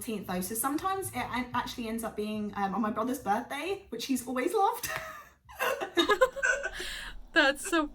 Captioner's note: laughs